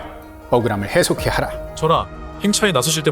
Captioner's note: gong